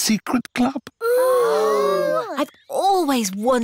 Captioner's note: all gasp